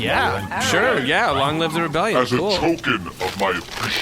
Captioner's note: crinkling noises